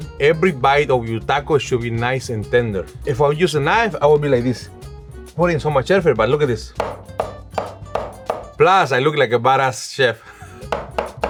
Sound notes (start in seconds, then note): 6.7 rhythmic tapping